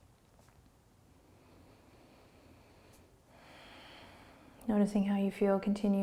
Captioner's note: breathing